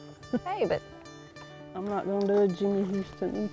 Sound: laughs

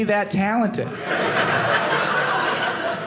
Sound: audience laughing

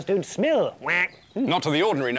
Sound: quack!

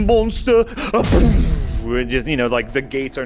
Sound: gate being pushed and slammed

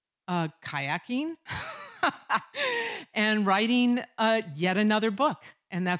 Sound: laughter

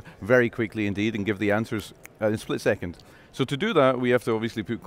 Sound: snaps

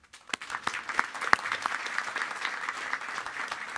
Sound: applause

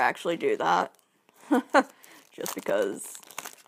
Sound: laughs

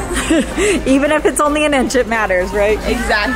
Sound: laughs

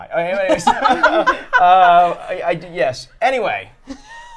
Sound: laughs

